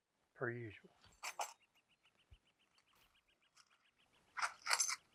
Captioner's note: coins jangle